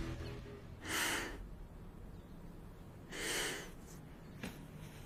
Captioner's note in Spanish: Suspiros